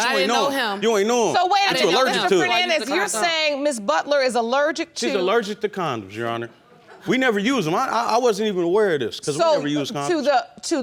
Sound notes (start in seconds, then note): none